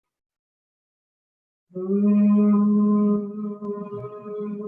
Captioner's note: humming